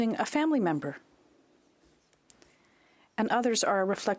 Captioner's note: speaking French